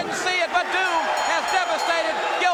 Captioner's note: bell ringing; crowd cheering